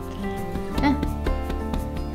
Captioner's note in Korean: 두드리는 소리